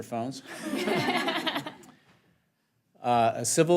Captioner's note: laughter